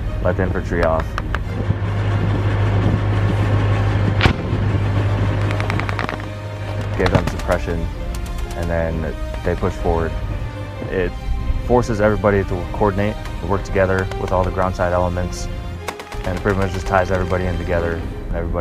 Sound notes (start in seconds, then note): 5.4 gunshots